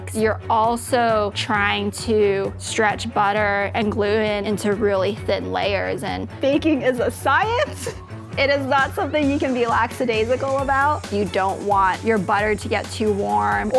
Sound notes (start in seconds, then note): 7.5 laughs